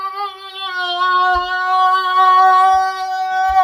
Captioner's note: screaming